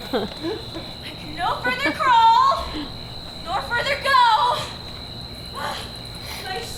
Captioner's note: panting